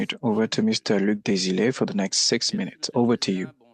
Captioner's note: speaking French